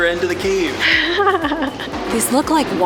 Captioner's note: laughter